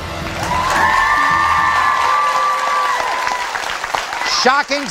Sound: audience applauding; cheering

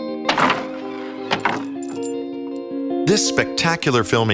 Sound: melancholy music; doors creak open

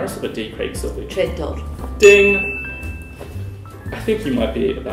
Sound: ding!

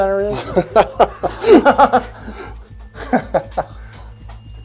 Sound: crew laughing

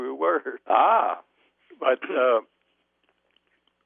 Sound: laughing

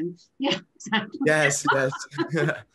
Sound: chuckles

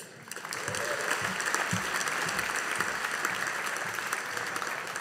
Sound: audience applauding

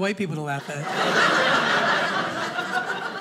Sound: audience laughing

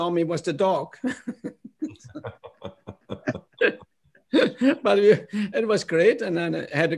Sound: laughter

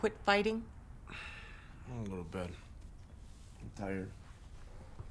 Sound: sighs

